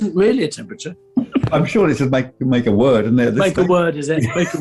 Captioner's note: giggling